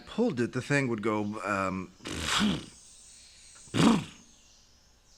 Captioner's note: imitates engine starting